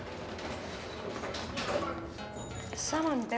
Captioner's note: bicycle bell rings